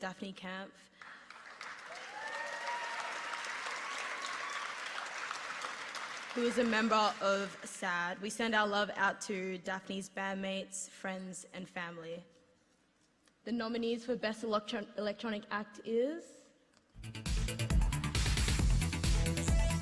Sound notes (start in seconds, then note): 4.2 applause